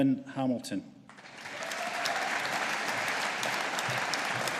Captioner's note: audience applauding